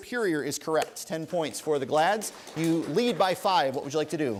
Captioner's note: applause